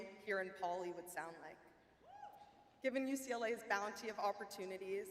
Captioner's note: audience member cheers